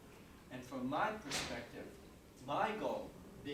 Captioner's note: door thudding